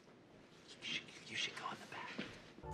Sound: whispered

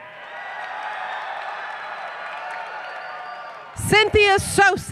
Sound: applause, Cheering

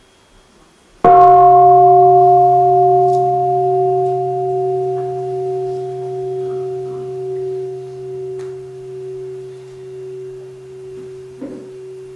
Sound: gong

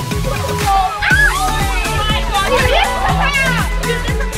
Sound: girls screaming

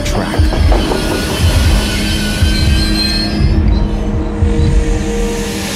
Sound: train brakes screeching, hissing

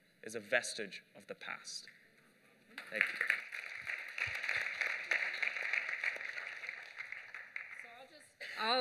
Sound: applause

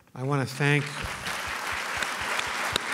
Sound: applause

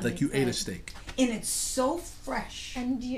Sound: voiceover

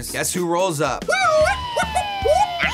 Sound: imitates sirens

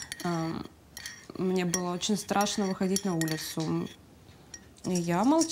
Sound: speaking in foreign language

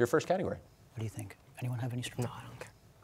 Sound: quietly

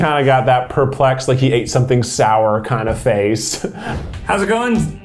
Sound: laughs

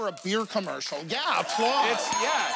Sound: cheers and applause

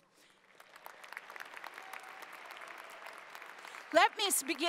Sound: applause

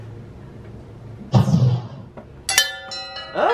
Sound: magic zapping; bells ringing lots

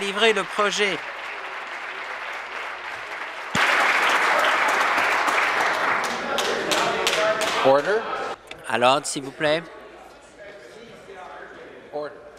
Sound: applause

